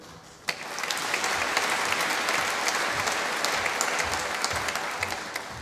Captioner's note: applause